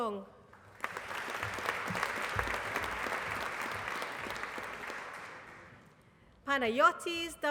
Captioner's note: applause